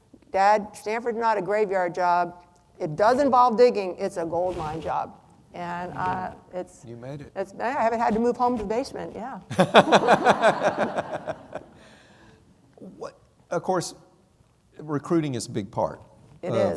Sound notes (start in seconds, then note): 9.5 everyone laughing